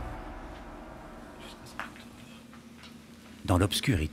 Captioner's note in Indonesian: suara langkah kaki